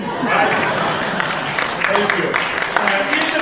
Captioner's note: applause